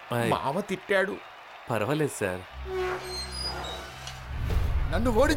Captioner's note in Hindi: तालियाँ